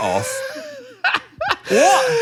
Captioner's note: Dan laughs